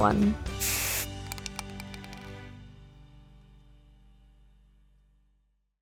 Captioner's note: spray paint whooshing and can rattling